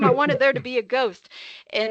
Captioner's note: laughing